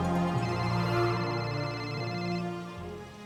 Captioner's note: phone rings